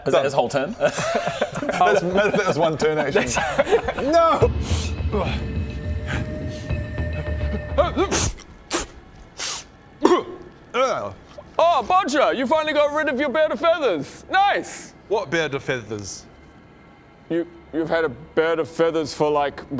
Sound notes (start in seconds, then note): 4.7 feathery sniff; 7.8 pff